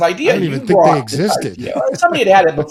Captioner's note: chuckles